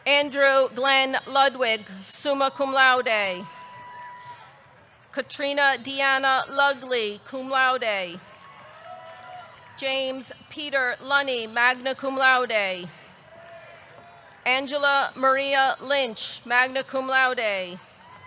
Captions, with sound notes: Andrew Glenn Ludwig, summa cum laude. Katrina Deanna Lugli, cum laude. (audience cheering) (audience clapping) James Peter Lunny, magna cum laude. Angela Maria Lynch, magna cum laude.